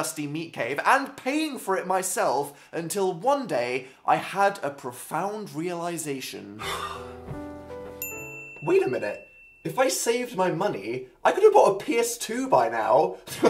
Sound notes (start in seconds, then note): 6.6 sighs; 8.0 realization ding